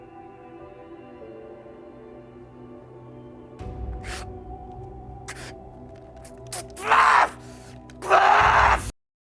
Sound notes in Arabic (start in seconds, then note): 4.5 ناثان يبكي; 6.6 ناثان يصرخ